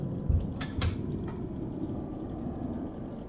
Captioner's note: door closes